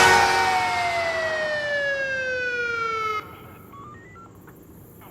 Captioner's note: siren blaring; police radio beeping